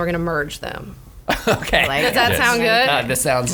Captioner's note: laughs